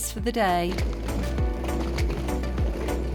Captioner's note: wheels on cobbles